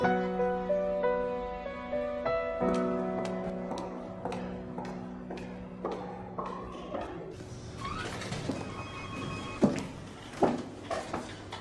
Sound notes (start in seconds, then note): 0.0 dramatic music; 8.6 phone ringing